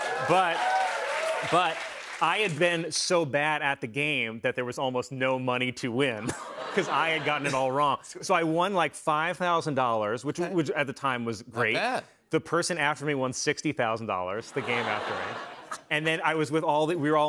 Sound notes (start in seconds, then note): 0.0 cheers and applause; 14.5 laughter